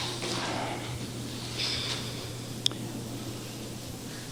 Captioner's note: soft sigh